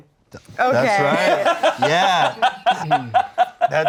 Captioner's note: laughing